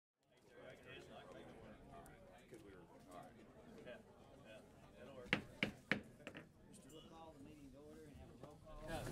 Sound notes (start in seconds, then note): 0.2 background chatter; 5.3 gavel banging